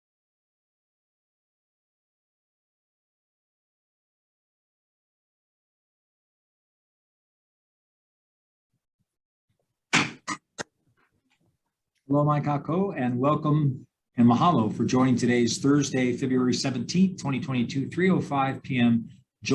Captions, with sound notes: (gavel thuds) (speaking in foreign language) - And welcome. (speaking in foreign language) for joining today's Thursday, February 17th, 2022, 3:05 p.m.